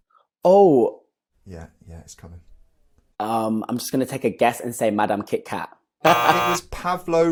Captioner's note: buzzer sounds